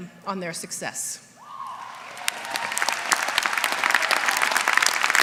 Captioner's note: applause